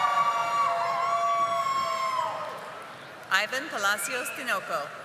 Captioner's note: audience applauding